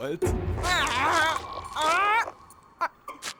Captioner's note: growling